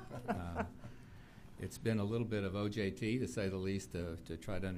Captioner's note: laughter